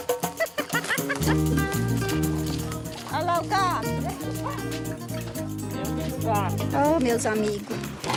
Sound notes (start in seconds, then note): 3.0 Portuguese spoken audio